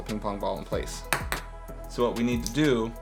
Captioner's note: ping pong ball clacks